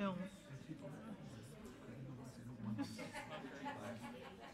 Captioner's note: people chattering